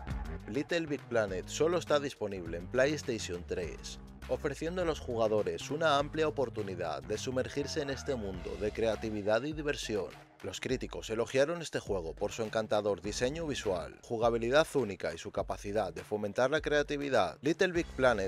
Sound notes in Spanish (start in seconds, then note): 10.2 Pausa dramática